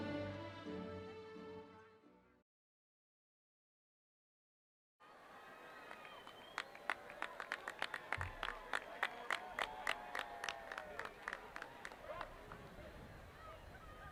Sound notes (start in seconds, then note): 0.0 ceremonial music continues; 5.1 audience clapping